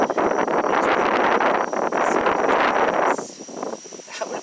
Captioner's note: wind blowing